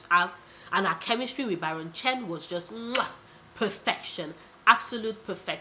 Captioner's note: muah!